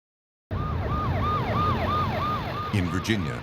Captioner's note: sirens